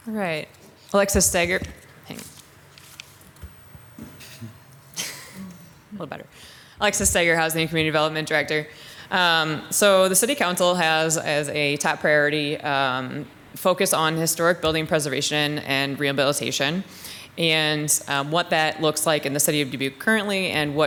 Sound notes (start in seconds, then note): 4.9 chuckles